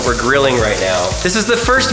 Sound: fat bubbling

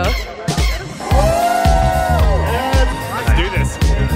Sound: cheering

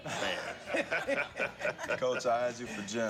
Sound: laughter

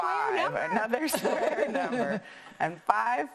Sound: laughing

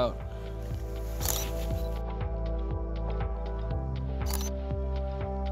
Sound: camera clicks

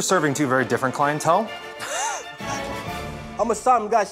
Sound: laughs

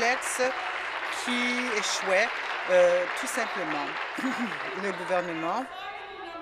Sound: applause

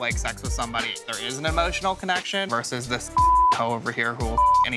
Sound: beep

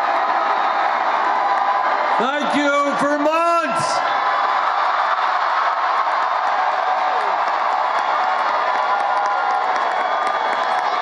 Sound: cheers and applause

